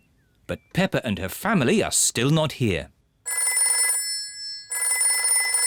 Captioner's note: phone rings